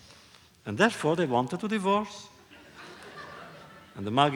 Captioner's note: laughter